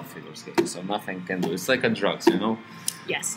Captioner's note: sarcastically